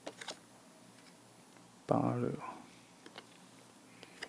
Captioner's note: breathe